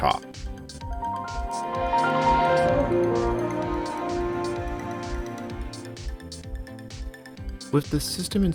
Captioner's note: Windows 2000 Startup Sound